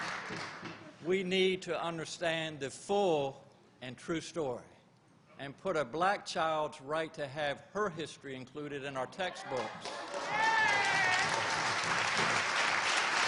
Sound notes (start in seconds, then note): 7.9 applause